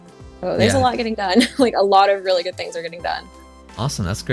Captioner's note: laughs